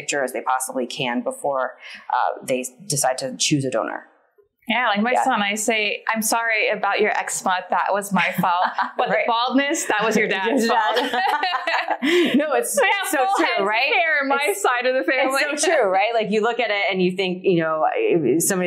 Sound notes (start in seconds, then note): 11.6 laughs loudly